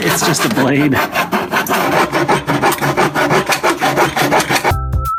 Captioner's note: more sawing